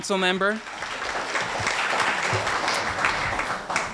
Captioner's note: applauding